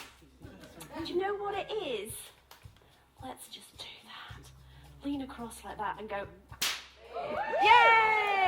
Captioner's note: whip crack